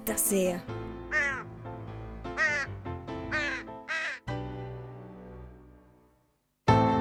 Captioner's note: crow sounds